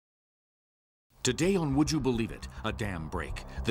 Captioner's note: voiceover